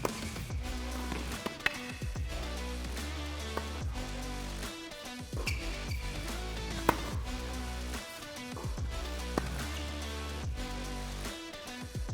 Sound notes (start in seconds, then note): 0.0 ball thuds; 0.3 upbeat music; 6.7 ball thuds; 9.0 upbeat music